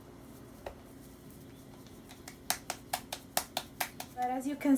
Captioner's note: claps dough to form another tortilla